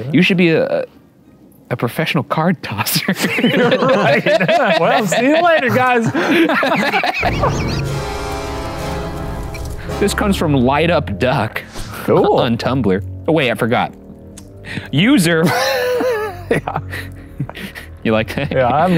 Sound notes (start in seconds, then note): 3.0 all laughing; 7.2 dramatic music; 15.4 laughing